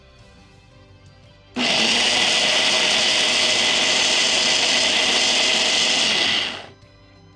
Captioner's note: blending whirring; soft music